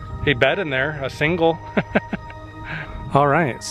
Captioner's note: laughter